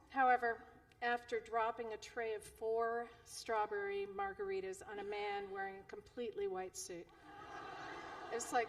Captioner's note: laughter